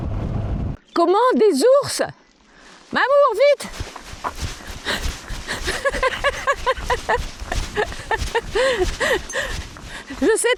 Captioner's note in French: rires